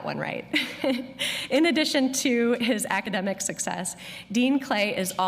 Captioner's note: laughter